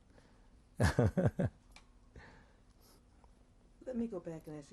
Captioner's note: laughs